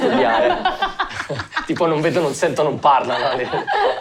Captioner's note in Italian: Risate